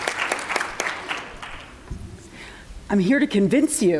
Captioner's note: applause